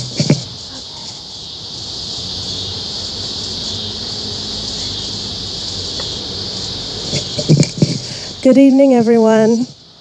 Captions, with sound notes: (crickets chirping) Good evening, everyone.